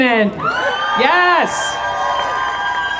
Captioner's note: crowd cheering